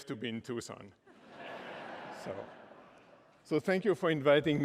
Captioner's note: laughter